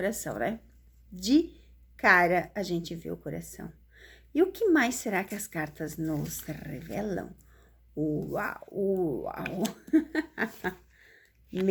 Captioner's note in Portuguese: risadas